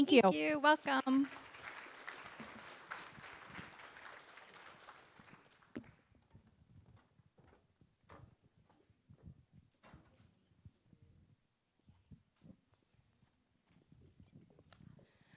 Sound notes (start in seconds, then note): 3.0 applause